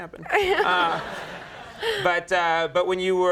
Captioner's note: audience laughing